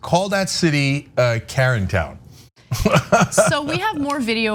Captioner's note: laugh